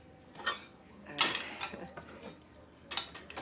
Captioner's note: chuckles nervously